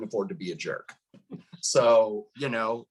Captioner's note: laughs